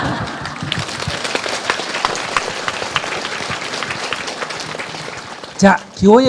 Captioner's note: audience Laughter and Applause